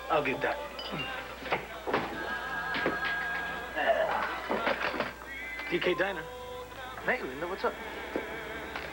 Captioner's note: telephone rings